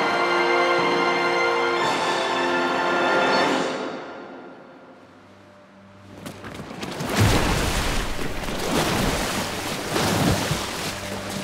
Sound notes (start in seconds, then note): 6.1 water splashing